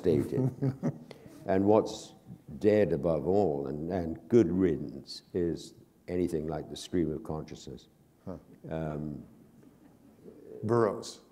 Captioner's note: chuckle